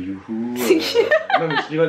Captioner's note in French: rires